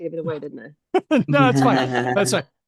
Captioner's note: laughter